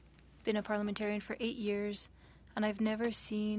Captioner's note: speaking French